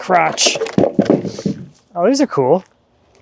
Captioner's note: wood clanging